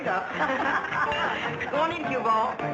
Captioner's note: laughing